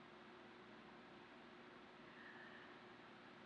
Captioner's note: inhales loudly